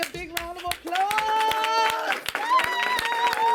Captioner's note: all clap